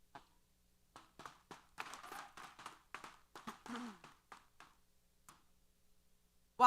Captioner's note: applause